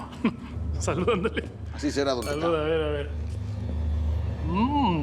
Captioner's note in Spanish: chocan los vasos